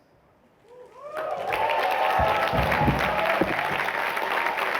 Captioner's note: cheering